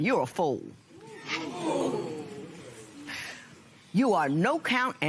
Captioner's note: spectators murmur